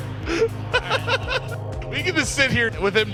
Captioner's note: laughing